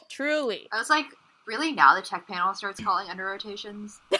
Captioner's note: sarcastically